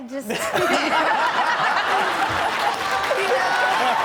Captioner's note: crowd laughs